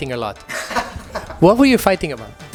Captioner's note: laughs